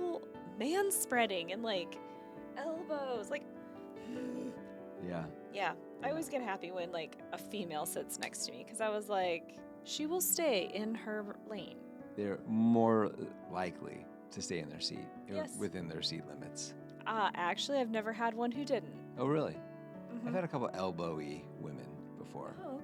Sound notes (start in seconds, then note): 4.0 gasping